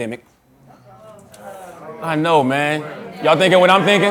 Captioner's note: audience groans